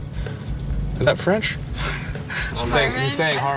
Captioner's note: chuckles